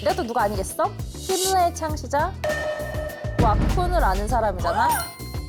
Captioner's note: surprised sound effect